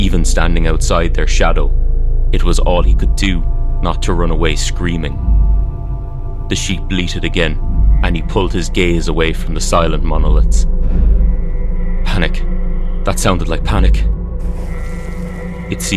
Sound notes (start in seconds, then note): 7.8 sound of sheep bleating again; 14.4 echoing sheep and the sound of scree settling